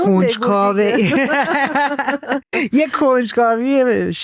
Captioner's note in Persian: خنده